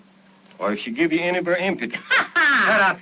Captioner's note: cackles